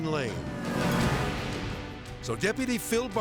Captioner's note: dramatic whoosh